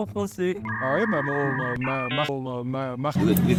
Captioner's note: system malfunctioning